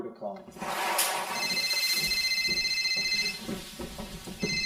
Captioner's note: phone rings